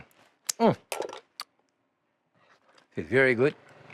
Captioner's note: lip smacking